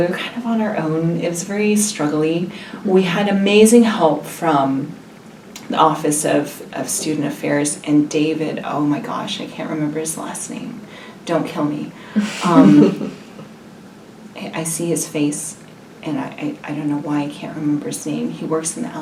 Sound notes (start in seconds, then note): 12.2 laugh